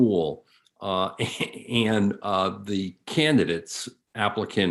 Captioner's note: chuckles